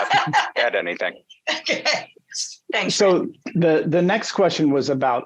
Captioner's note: laughs